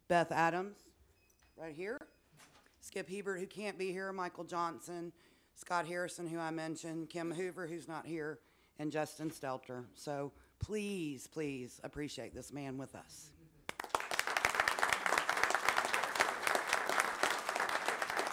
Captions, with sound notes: Beth Adams right here, Skip Hebert who can't be here, Michael Johnson, Scott Harrison who I mentioned, Kim Hoover who's not here, and Justin Stelter, so please, please appreciate this man with us. (many applauding)